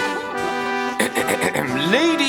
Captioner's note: trumpets sound; clearing throat